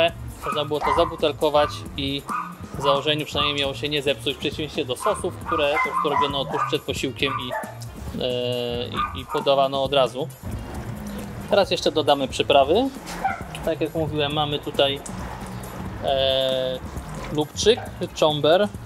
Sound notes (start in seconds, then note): 4.9 neighbours' dogs have caught the scent of anchovies